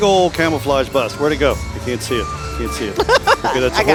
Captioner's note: laughing